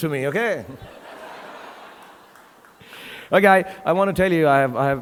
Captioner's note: audience laughing